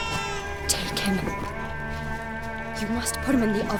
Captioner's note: baby crying; hushed